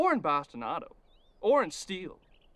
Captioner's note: none